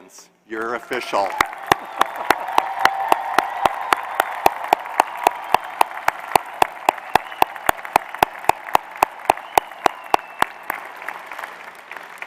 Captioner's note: applause